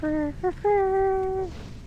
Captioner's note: hums